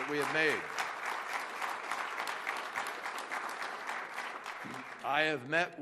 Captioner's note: applause